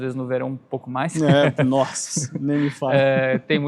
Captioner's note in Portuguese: risadas